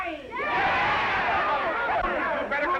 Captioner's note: all shouting